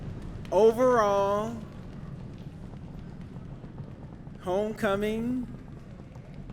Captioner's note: audience making drum roll sounds